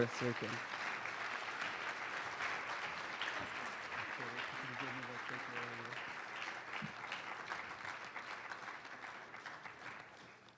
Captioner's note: applause